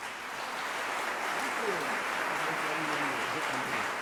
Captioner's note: applause